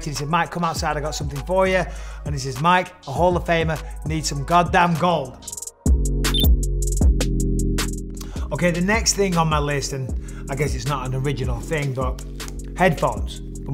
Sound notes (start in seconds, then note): 6.2 relaxed dub music; 6.3 graphic blips